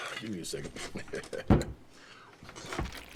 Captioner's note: chuckles